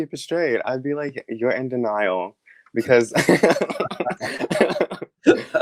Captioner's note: laughs